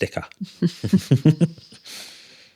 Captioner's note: laughing